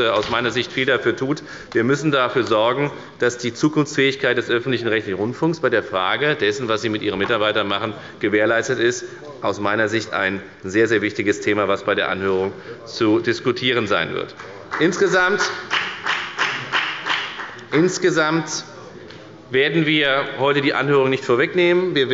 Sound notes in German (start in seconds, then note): 14.4 Beifall bei der FDP